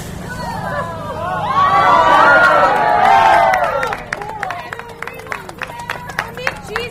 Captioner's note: audience awwws, cheers, and claps